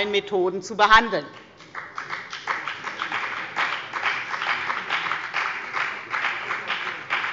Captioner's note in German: Beifall bei der FDP